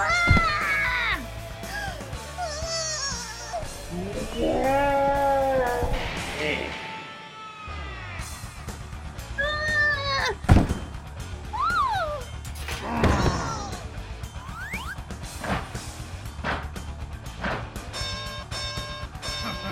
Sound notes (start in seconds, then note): 0.1 little boy groans; 1.6 mom gasps; 3.7 wrestler growls; 9.4 little boy yells; 12.9 mom screams; 15.3 referee slams the ground three times; 19.2 wrestler laughs